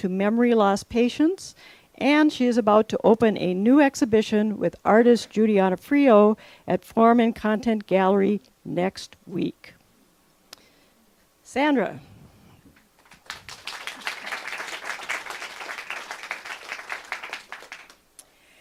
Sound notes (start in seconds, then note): 13.0 clapping